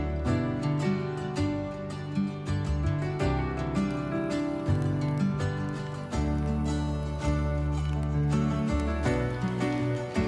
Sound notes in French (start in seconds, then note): 3.0 crépitement du feu